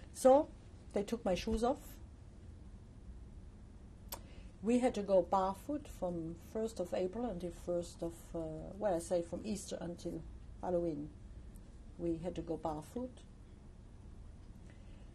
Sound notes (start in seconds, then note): 1.9 pauses for 3 seconds; 12.8 pauses for 3 seconds